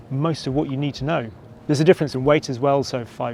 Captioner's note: none